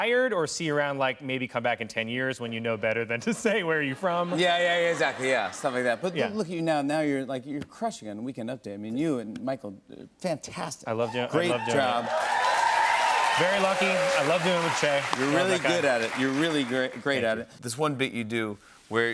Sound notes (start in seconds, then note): 3.3 laughter; 11.4 cheers and applause